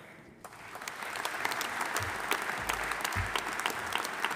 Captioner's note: audience applauding